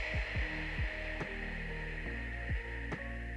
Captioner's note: exhales